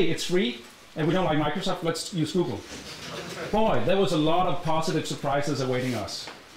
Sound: chuckling

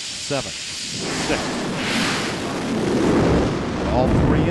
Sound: roar of engines igniting

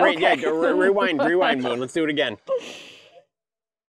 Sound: laughing

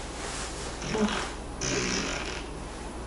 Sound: fart♥

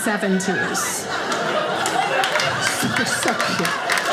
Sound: audience laughing

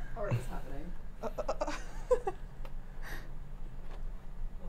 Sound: laughs

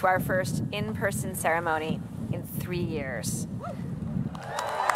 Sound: applause

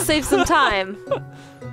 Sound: laughs

